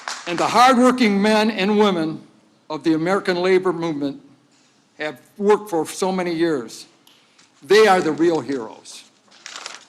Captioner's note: applause